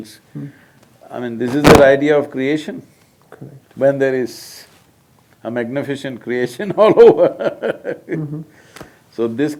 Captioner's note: laughs